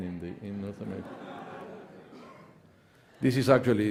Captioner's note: audience laughing